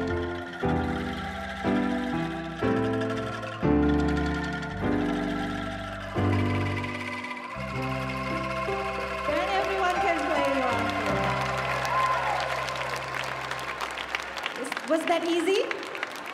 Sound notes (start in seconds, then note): 13.4 audience cheering; 15.1 audience applauding